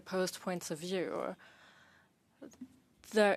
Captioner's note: speaking French